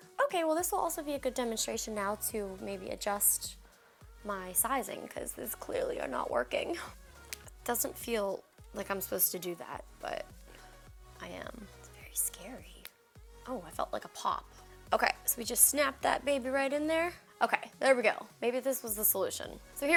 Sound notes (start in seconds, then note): 12.7 earbud clicks